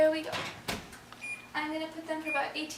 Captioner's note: beeping